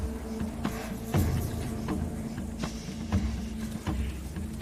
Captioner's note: animal bellows